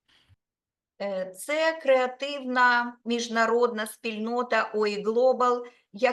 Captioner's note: speaking Ukrainian